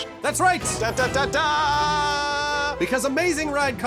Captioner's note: singsong